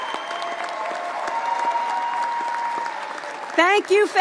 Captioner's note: cheering